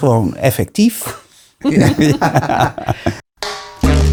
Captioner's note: laughing